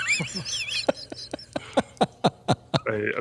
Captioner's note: laughter